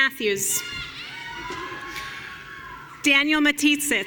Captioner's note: audience cheering